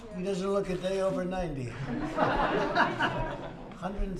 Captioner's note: laughter